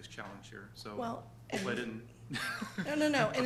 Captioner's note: laughs